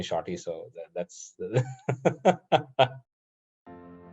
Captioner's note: يضحك